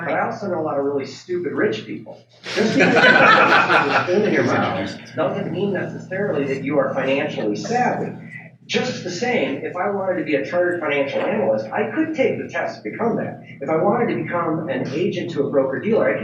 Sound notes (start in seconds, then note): 2.4 audience laughs